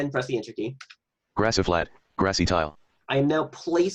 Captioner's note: computer Voice